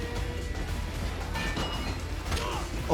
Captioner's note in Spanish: música rock; golpe metálico; ruido metálico